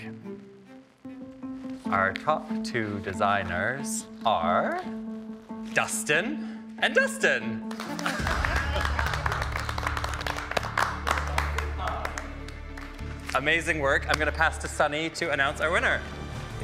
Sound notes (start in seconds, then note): 0.3 gentle suspense music; 7.6 all clapping; 7.9 chuckling